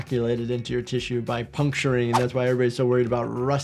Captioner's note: audio whooshes